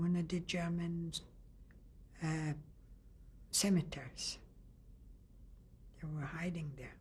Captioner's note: pauses for 3 seconds